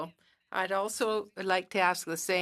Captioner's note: speaking French